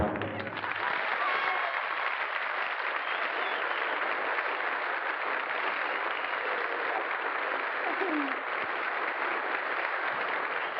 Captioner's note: applause